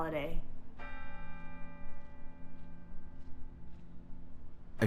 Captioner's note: bell chimes